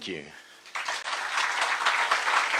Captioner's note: applause